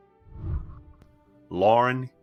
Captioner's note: whooshing